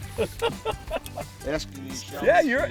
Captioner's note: laughing